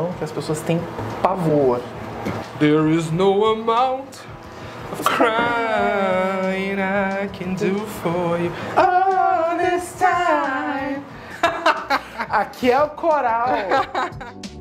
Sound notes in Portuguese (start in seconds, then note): 2.6 cantarola; 4.8 cantarolam; 11.3 risos